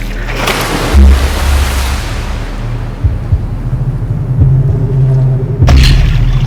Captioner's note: water splooshes; disjointed music